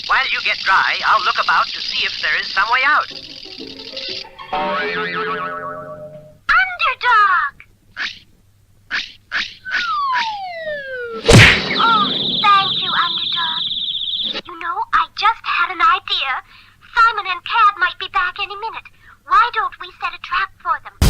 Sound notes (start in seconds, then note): 4.6 boing!; 11.2 crash!